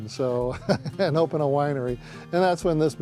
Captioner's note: chuckles